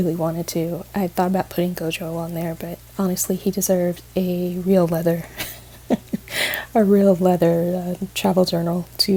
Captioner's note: laughs